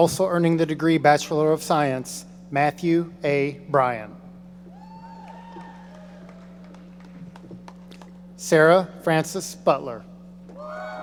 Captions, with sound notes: Also earning the degree of Bachelor of Science, Matthew A. Bryan. (audience applauding) Sarah Frances Butler.